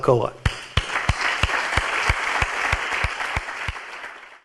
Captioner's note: clapping and applause